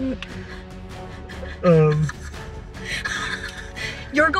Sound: panicked Laughing

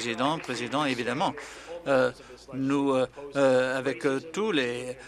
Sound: applause

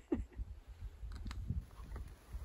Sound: laughters

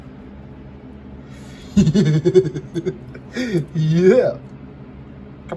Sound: laughs and giggles

